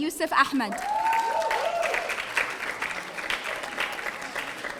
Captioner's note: audience applauding